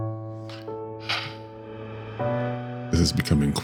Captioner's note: sighs